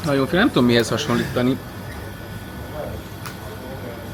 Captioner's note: clears throat